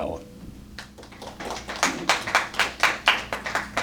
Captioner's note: applause